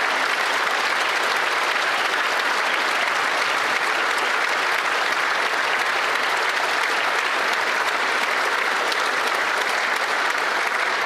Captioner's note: some Applause